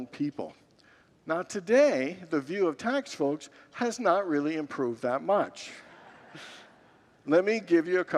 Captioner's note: congregants laugh